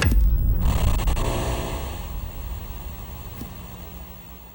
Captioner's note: static buzzing